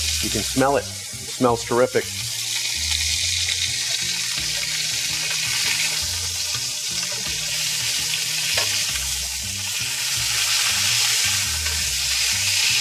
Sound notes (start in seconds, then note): 2.8 bright music; 2.8 chicken sizzling